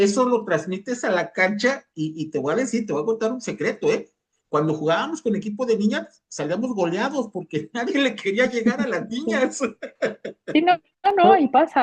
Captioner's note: risas